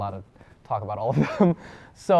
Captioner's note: chuckles